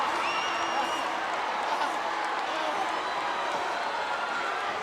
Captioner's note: wrestlers grunting